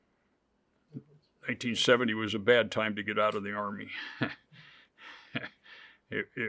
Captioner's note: chuckles